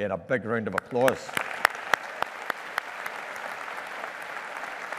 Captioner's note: audience applauding